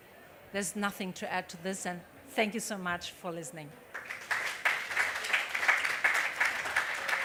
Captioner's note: applause